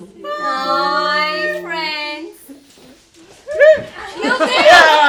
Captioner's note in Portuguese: gritos